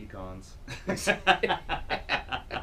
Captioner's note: laughs